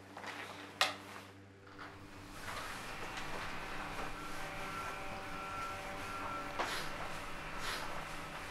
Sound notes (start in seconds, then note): 1.7 handheld fans blow